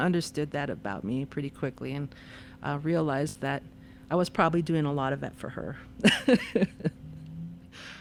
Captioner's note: laughter